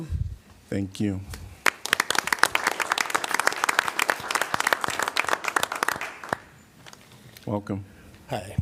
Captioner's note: applause